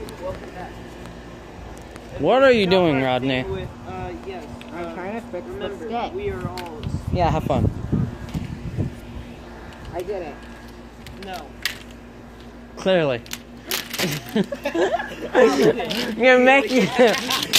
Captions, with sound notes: What are you doing Clearly *everyone laughs*